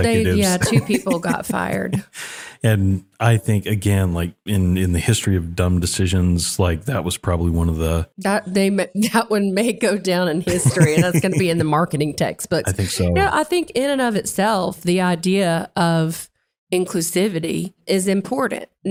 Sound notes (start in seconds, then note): 10.4 laugh